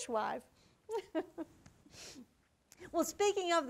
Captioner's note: giggles